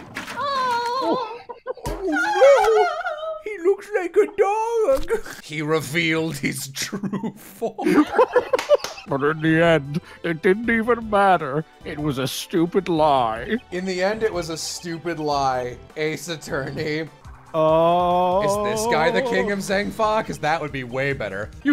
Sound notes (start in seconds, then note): 6.9 laughter